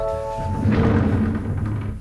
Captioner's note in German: Knarzen